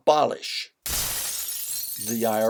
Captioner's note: crash - breaking glass